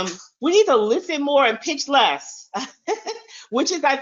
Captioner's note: chuckles